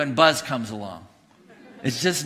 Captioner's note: congregation laughing